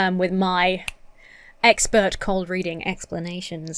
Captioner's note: snaps fingers